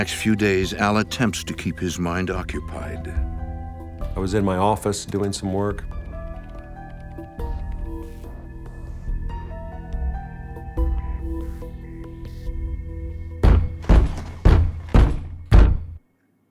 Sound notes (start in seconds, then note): 13.4 loud banging